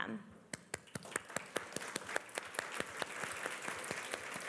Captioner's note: applause